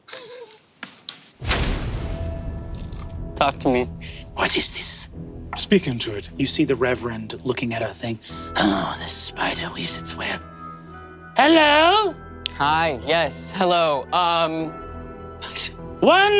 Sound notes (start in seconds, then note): 0.3 Murph snickers; 1.4 dramatic impact slams